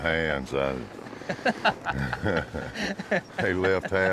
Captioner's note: laughing